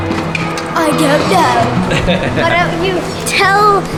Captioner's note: dad laughs